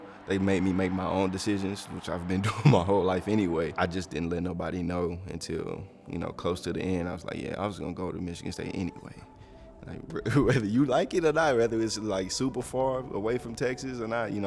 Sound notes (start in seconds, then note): 10.2 laughs